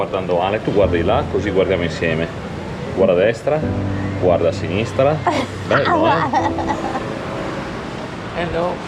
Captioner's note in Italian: risate